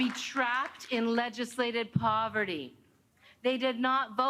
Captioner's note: applause